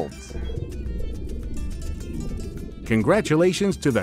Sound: bubbles

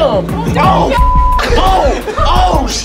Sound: beep

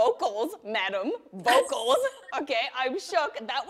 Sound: laughs

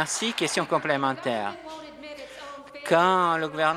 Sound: some Applause

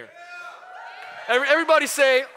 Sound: cheering

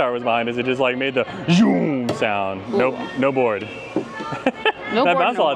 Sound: grunts; laughs

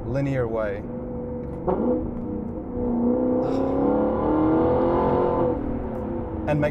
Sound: engine sounds

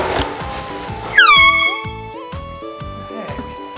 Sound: air horn

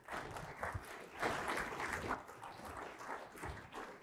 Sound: audience clapping

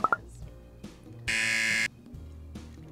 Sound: buzzer rings

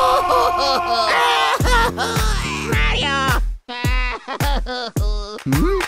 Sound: crying

